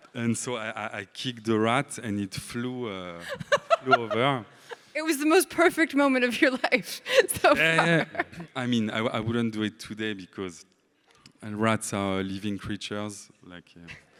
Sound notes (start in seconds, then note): 3.2 laughs; 7.2 laughs